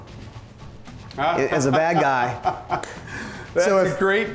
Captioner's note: laughs